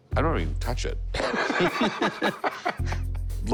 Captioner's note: laughter